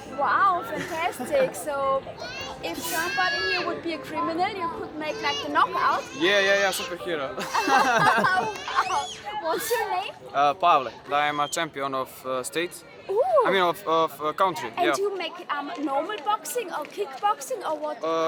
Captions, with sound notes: Wow, fantastic, so… if somebody here would be a criminal you could make like a knock-out? Yeah, like superhero. [laughing] What’s your name? Pavel, I’m a champion of the State. Oh. I mean, of the Country. And you make normal boxing or kickboxing or what?